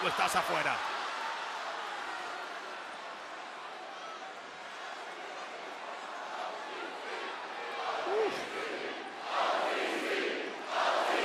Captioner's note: applause